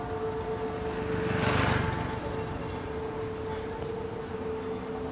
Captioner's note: motorcycle engine revs